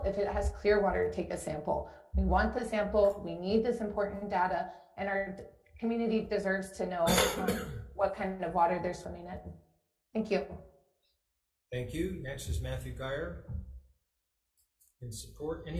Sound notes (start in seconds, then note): 7.0 coughing